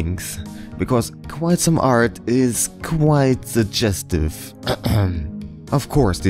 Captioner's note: cough